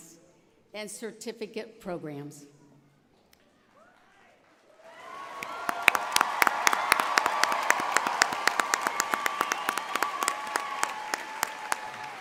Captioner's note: applause